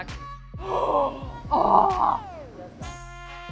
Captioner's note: gasping